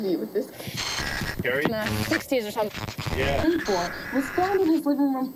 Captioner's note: digital noise mixed with reporting